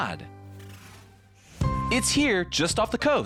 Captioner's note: air whooshing